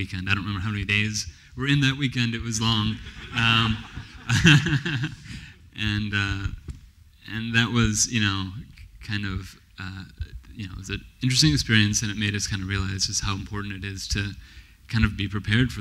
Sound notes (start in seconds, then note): 2.9 laughs; 2.9 laughter